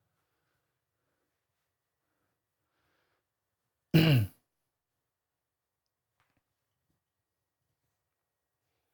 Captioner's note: silence